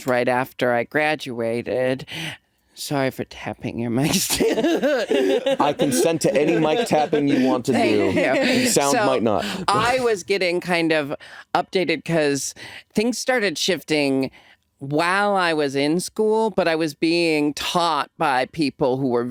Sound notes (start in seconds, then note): 4.1 laughing